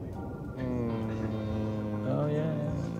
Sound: imitates plane whooshing

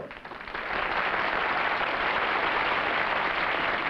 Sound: applause

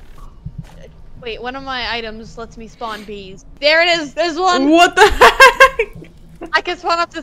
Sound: laughs

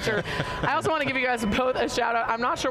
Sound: chuckles

